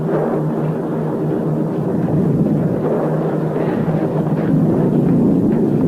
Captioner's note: plane engines roaring continues